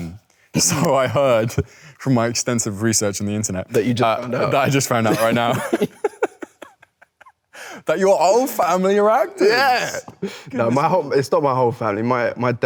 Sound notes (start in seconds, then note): 4.9 Leo and Nicholas chuckle